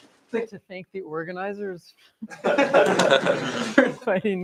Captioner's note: laughter